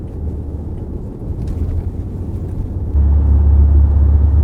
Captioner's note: turn signal ticking